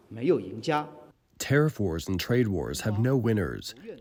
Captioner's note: through translator